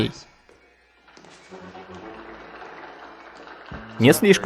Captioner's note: people applauding